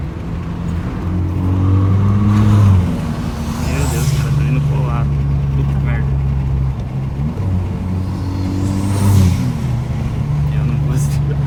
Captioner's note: laughs